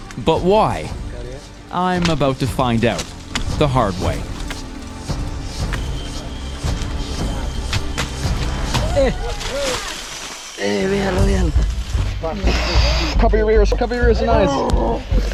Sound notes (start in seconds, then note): 0.0 speaking in foreign language; 4.2 tense dramatic music; 10.9 speaking in foreign language